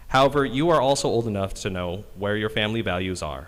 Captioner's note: none